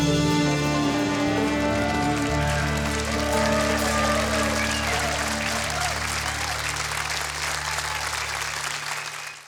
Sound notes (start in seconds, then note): 2.4 audience applauding; 2.4 audience cheering